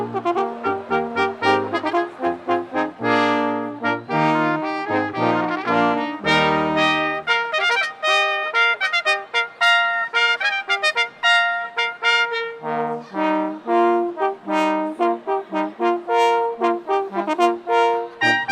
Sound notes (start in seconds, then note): 0.8 cheering